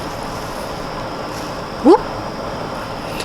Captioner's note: my confusion/uhoh noise 😂